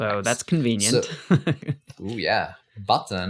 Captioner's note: laughs